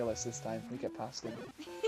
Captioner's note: laughter